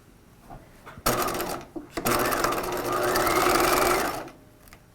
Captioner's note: machine whirring